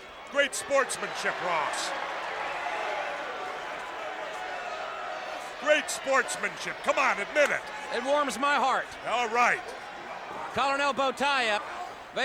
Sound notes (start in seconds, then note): 2.2 audience cheers; 3.8 The Barbarian speaks faintly